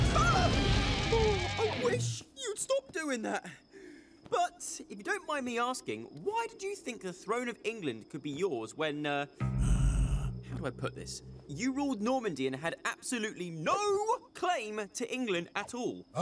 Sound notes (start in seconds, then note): 9.4 growling